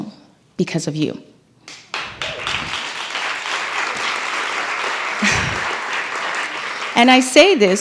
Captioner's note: applause